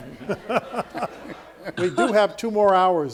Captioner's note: all laughing